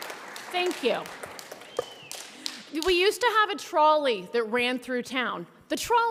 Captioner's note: applause